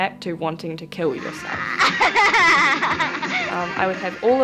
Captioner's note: young laughs